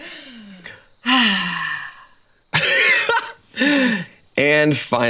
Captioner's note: sighs